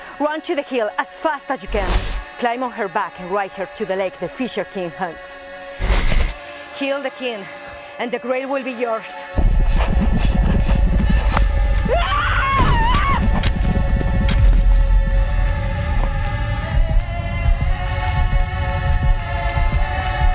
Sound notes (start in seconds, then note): 9.5 panting; 11.9 Epona screams; 17.2 wordless chanting